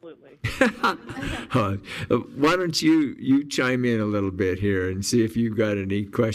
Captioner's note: laughs